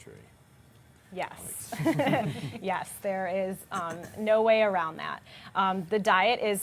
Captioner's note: laughs